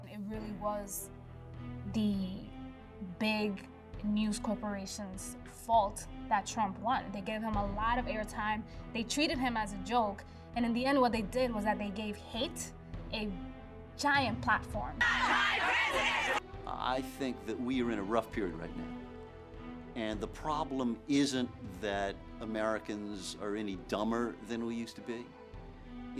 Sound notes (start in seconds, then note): 15.0 chanting